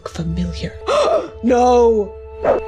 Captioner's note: gasps